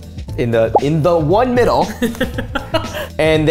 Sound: laughing

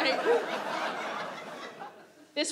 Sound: audience laughs

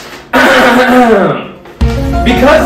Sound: dramatically clears throat; music

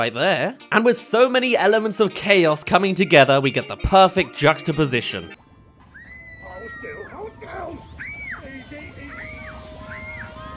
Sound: screaming

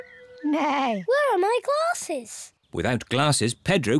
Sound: neighs

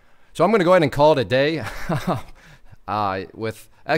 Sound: laughs

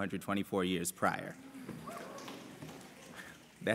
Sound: snapping

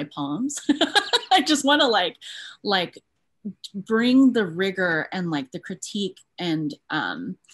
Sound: laughs

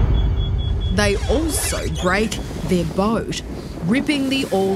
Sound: dramatic music; beeping

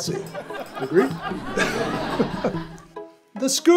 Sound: audience laughs; laughs

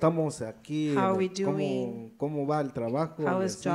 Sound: speaks in foreign language

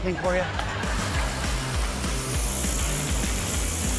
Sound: laughs

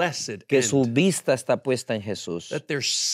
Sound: speaking in Spanish

